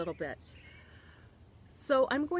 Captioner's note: birds chirping